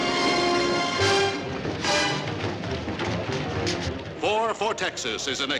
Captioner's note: dramatic music; footsteps